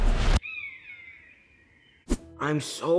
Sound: bird squawks

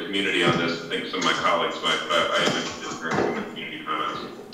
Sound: faintly speaking; faintly speaking

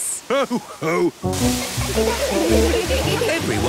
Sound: laughter

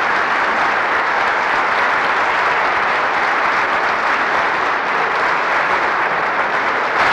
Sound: applause continues

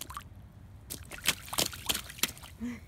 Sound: tiny jump splashes

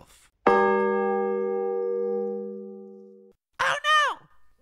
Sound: big bell rings

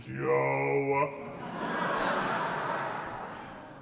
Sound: laughter

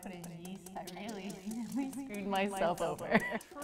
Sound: laughs

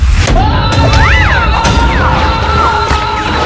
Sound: screams

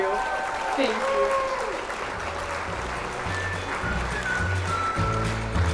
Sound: crowd cheers

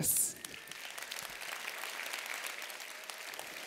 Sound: applause

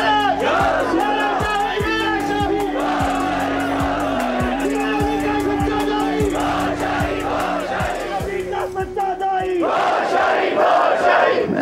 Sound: Audience raising slogans in favour of HDE Gohar Shahi

